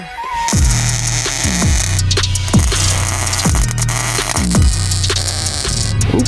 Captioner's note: welder crackling; hip-hop music